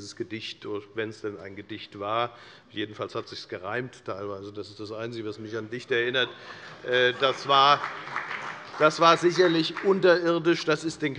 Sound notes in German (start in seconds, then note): 6.9 Beifall bei der FDP